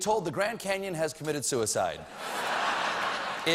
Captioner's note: laughter